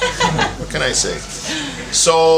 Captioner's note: laughter